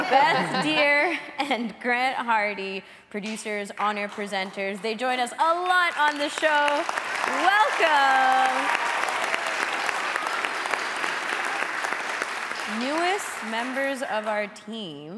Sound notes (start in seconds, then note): 6.2 audience applauding; 7.2 applauding; 8.5 audience applauding; 8.5 audience cheering